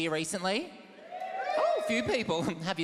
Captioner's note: soft audience cheer